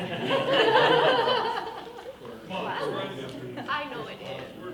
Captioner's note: women laughing